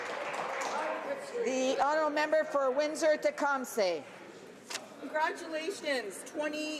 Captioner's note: some Applause